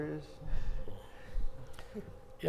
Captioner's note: moderators chuckling